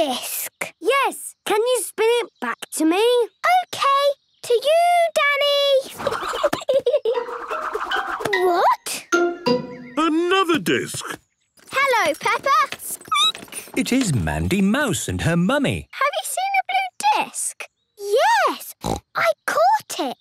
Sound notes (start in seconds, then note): 5.9 giggling; 11.6 squeaking; 18.8 snorting